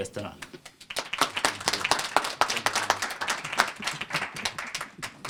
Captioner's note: applause